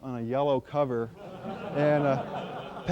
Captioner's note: laughter